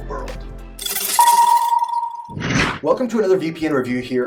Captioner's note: air whooshing